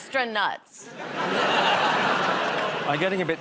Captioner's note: audience groans